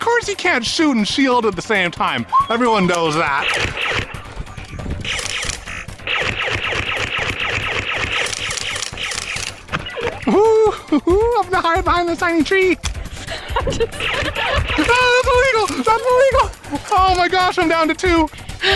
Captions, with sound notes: Of course you can't shoot and shield at the same time. Everyone knows that. (Nerf blasters firing) Woo, woo. I'm gonna hide behind this tiny tree. That's illegal, that's illegal. Oh my gosh, I'm down to two.